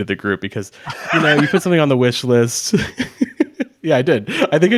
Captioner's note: chuckles